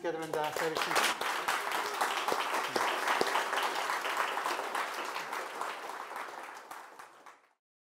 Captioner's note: clapping